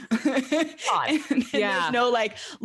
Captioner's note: laughs